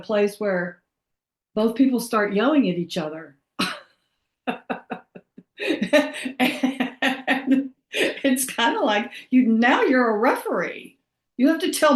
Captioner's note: laughs